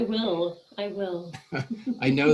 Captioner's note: laughing